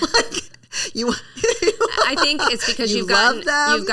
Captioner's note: laughing